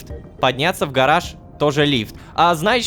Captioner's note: elevator